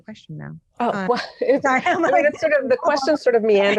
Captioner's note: laughing